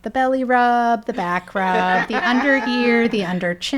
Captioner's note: people laughing